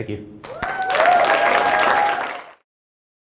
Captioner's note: applause